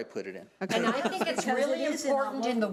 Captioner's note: laughing